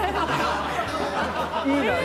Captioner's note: hahahaha!